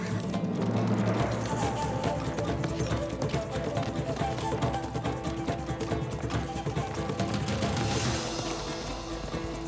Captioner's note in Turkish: At kişneme sesi; At nalı sesi